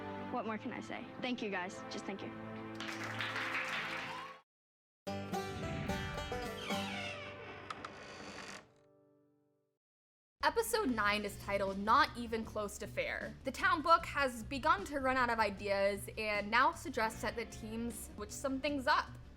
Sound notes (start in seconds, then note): 2.7 applause